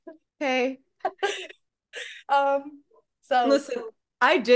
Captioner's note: laughs